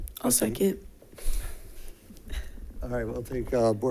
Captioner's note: chuckles